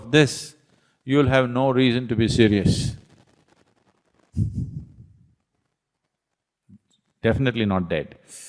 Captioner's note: laughs